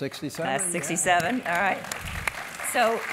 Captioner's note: applause